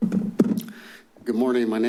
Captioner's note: rustles